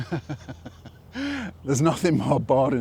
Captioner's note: laughs